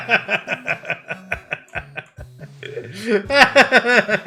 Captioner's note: laughter